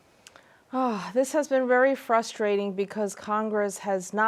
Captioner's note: sighs